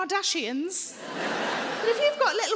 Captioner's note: audience laughing